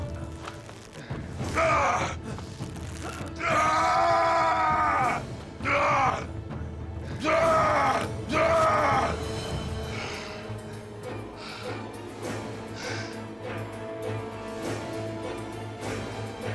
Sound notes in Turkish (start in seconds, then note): 0.0 Ertuğrul bağırma sesi; 3.2 Ertuğrul bağırma sesi; 9.4 Müzik - Gerilim; 9.4 Nefes sesi